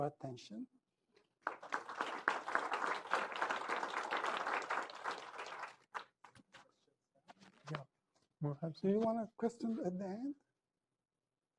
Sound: applause

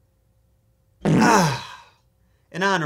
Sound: fart sound

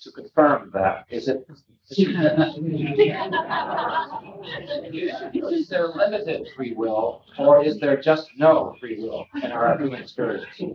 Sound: laughter

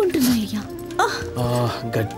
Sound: groans

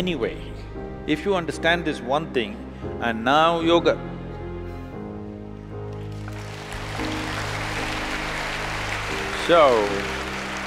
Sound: applause

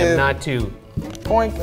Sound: none

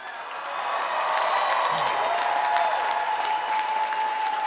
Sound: cheering

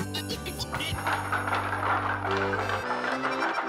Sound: clacking

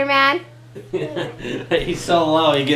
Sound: laughing

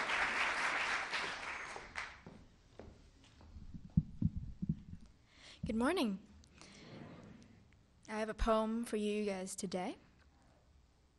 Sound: applause

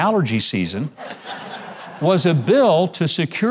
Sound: audience chuckling

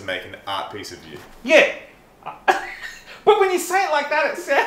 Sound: laughs

